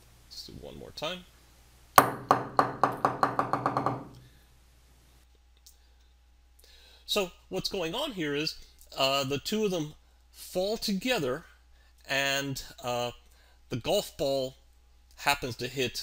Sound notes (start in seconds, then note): 4.9 ball bouncing